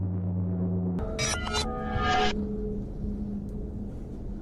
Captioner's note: energy pulsing